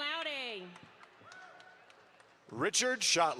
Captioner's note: audience applauds